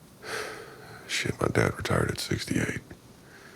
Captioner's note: sighs